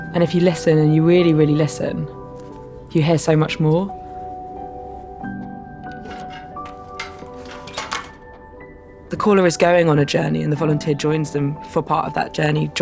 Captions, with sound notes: And if you listen and you really, really listen, you hear so much more. [letterbox clacking] The caller is going on a journey and the volunteer joins them for part of that journey,